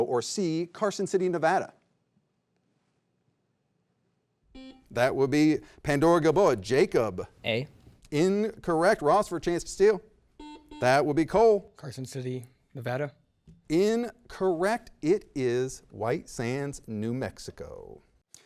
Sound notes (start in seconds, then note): 4.6 beep; 10.4 double beep